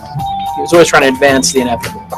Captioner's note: voiceover